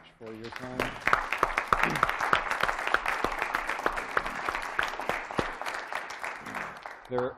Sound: applause

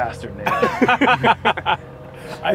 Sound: laughter

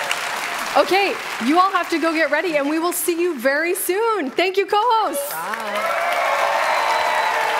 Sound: applause

